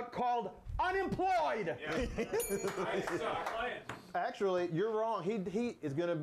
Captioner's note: bell rings